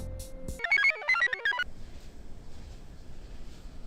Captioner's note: computer chirps